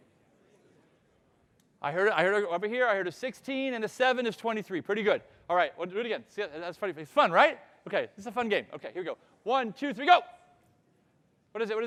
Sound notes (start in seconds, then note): none